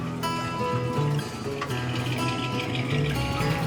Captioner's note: the low rider rumbles